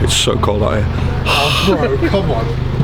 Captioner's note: exhales